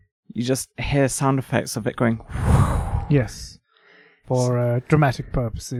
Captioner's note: swoosh